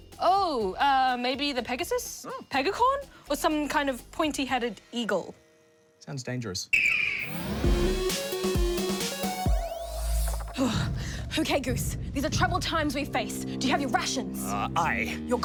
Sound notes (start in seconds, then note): 6.5 eagle screeches; 10.4 sighs